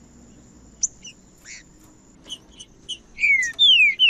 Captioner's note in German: trinca ferro cantando